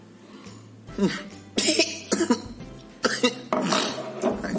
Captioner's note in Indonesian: batuk lagi